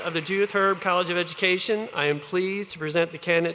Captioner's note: applause